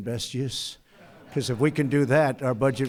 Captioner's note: laughter